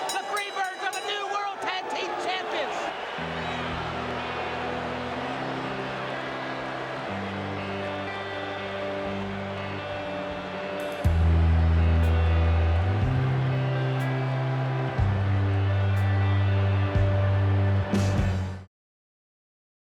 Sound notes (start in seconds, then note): 3.6 crowd cheering; 3.6 upbeat music